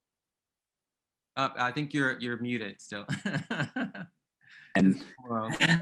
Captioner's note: laughs